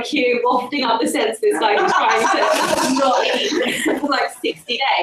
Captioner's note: audience laughter